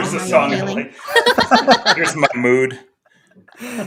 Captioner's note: everybody laughing